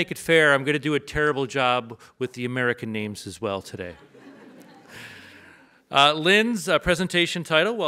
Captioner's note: audience laughs